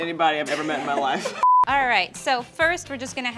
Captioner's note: laughs